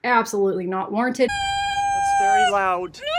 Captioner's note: screaming